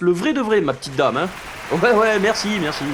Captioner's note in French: Public qui applaudit